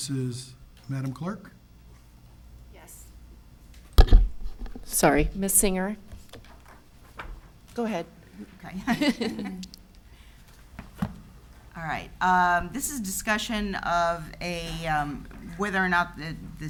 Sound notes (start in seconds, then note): 8.6 laughs